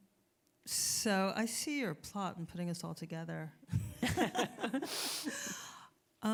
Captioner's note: laughs